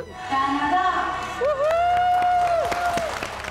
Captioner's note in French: applaudissements